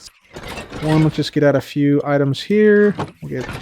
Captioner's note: loud copper golem clanging